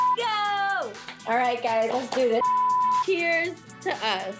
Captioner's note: beep; beep